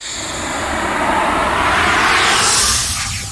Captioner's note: swooshing